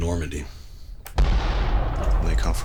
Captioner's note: bomb thundering